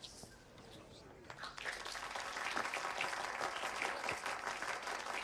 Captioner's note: audience applauding